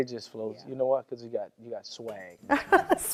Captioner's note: laughs